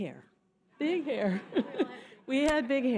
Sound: laughter

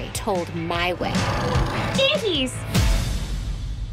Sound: growling

